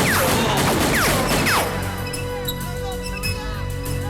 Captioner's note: gun fires